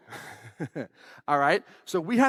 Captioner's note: laughs